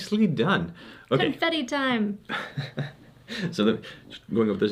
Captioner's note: laughing